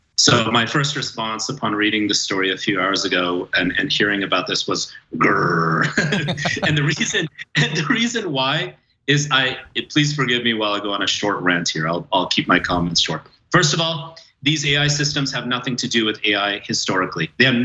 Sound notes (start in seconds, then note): 5.9 laugh